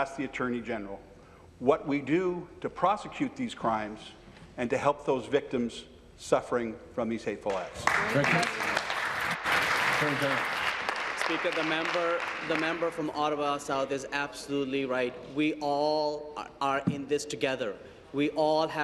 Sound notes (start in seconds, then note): 11.9 applause